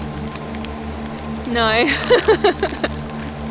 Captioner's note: laughs